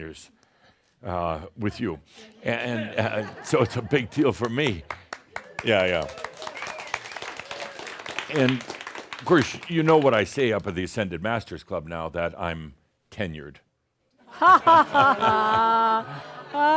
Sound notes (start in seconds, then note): 1.4 some chuckles; 4.2 some applause; 14.4 chuckles